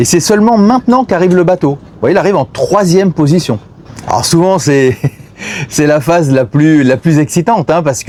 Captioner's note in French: rires